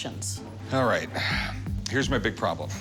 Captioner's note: sighs